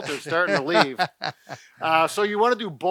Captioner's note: laughs